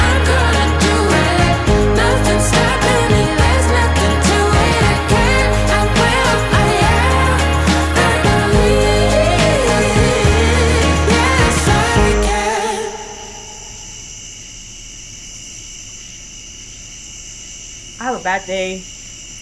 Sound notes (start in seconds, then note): 13.4 insects chirping